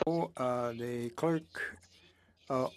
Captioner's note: speaking French